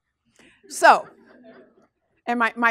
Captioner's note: class laughs